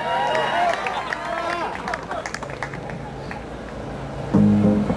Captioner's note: audience applauds